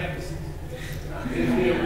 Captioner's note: laughs